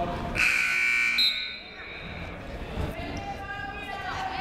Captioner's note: buzzer rings